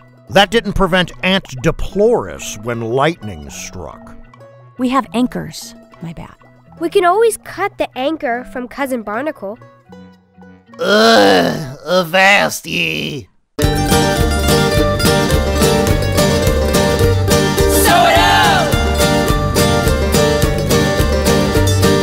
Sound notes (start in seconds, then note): 10.8 moans; 13.6 upbeat country music